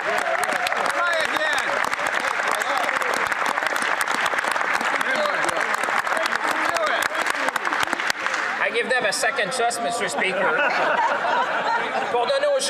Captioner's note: some Applause